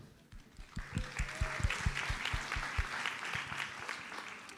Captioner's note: audience applauds